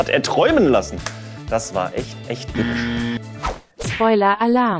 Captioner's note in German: Errorgeräusch